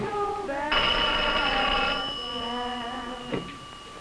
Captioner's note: phone ringing